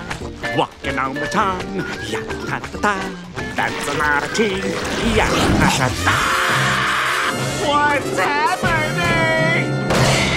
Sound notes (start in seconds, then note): 1.8 humming; 5.2 screaming